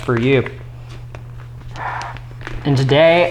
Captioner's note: heavy breathing